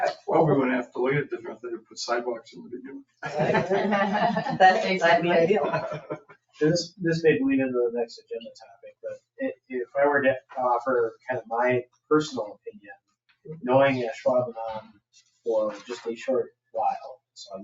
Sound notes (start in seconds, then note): 3.2 attendees laughing